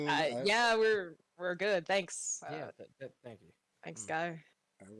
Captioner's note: mumbles in agreement